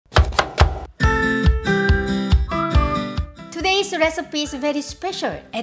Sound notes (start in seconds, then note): 0.1 knife chopping; 0.1 upbeat music